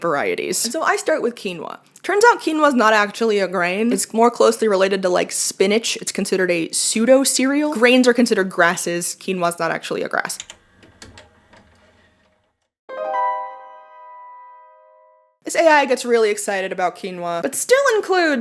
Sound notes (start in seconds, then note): 12.9 musical sting; 12.9 VHS pausing sound effect